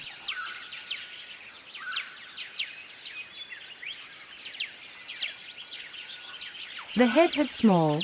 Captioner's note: forest sounds